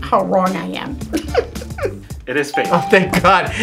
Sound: laughs

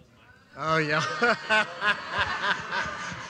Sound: laughter as man grabs mic

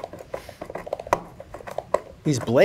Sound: herbs crunch

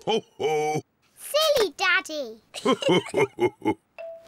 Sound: both laugh

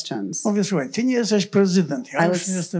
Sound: foreign language

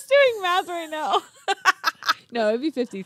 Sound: group laughs

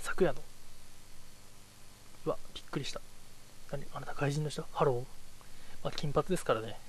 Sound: spoken in English

